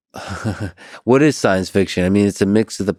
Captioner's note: chuckles